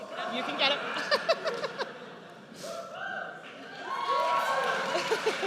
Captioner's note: laughs; audience cheers